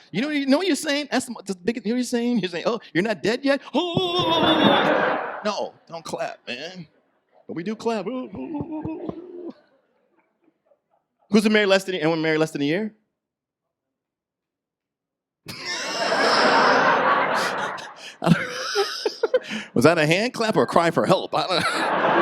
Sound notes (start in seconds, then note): 15.6 audience laughs; 21.5 laughing